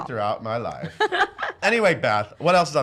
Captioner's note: laughs